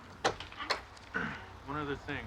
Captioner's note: clears throat